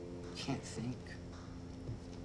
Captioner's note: French